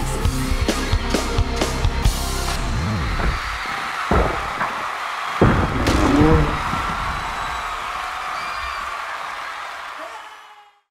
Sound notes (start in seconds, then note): 0.3 crowd cheering; 4.0 thumping and cracking; 5.8 groans; 7.2 crowd cheering